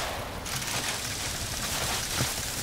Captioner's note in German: Knisternde Laute